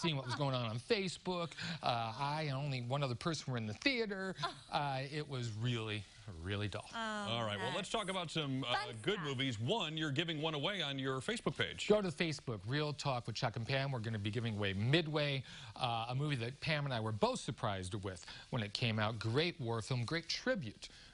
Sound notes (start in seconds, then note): 4.4 laughter